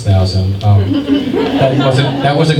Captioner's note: scattered chuckles